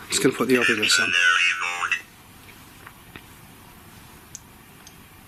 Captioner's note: Ovilus chattering